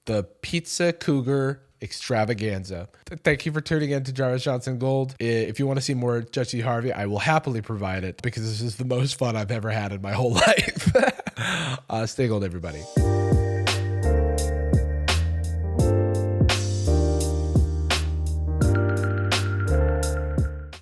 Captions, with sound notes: the pizza cougar extravaganza. Thank you for tuning in to Jarvis Johnson! GOLD, if you want to see more Judge Steve Harvey I will happily provide it, because this is the most fun I've ever had in my whole life. (laughs) Uh, stay gold everybody. [Outro music]